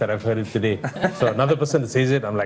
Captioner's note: everyone laughs